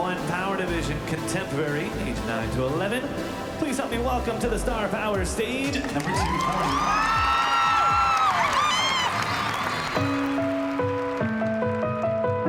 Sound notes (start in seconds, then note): 5.7 cheering and applause